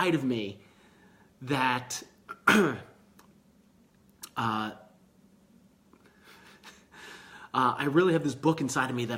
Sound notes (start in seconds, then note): 2.3 clears throat; 6.2 chuckling